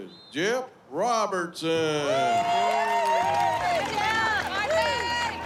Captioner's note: cheers, applause